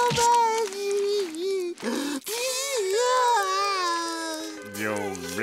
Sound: crying

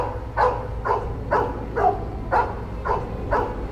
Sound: dog barking louder

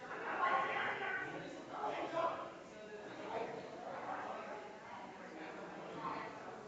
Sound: people chattering distantly continues

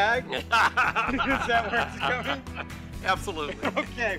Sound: laughs

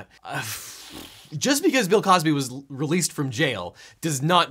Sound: sighs

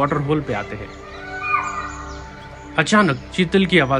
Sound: peafowl Calling; chital Deer Alarm Call

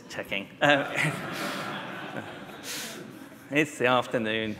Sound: laughter

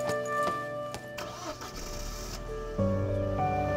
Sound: car engine starts

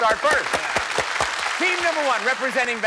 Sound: applause

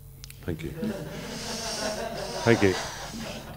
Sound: laughter

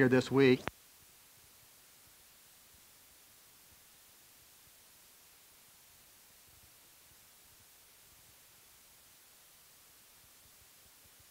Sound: silence

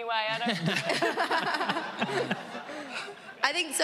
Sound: all laughing

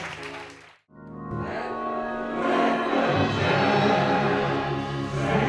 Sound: applause

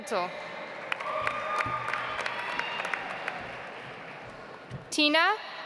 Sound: audience applauds

